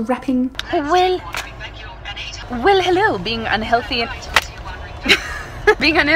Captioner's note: laughs